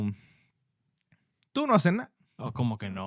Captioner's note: speaking Spanish